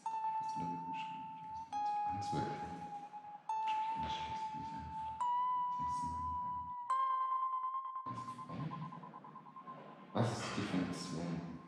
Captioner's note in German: murmelt